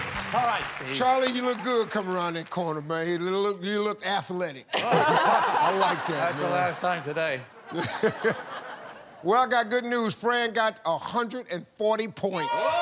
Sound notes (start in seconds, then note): 4.7 laughter